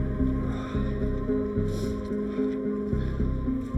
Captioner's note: Brian sighs